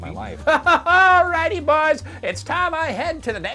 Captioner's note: laughing